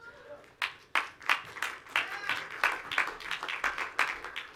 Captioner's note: audience applauds